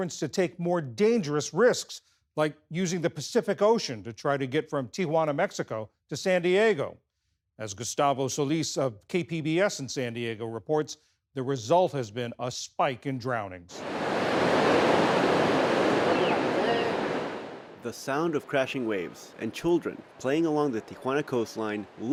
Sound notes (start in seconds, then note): 18.2 voice-over